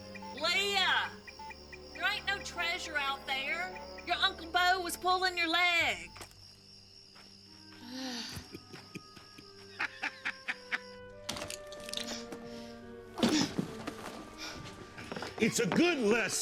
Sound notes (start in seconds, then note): 7.6 grunts; 8.2 chuckles; 11.9 grunts